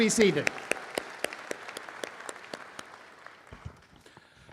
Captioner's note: applause